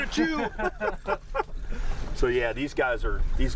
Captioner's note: laughing